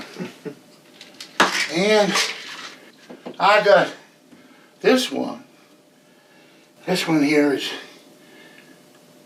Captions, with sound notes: (Bradley chuckles) And I got this one. This one here is,